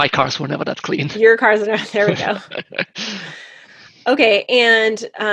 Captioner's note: laughs